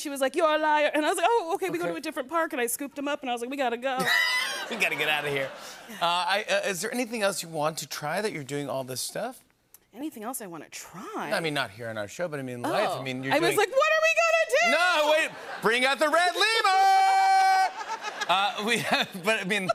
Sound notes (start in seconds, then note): 4.0 laughter; 17.5 laughter